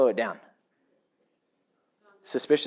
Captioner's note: audience member answers off microphone